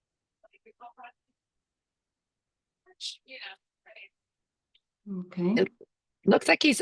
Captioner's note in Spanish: conversación confusa